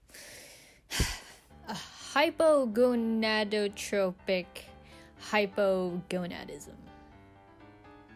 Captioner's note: sigh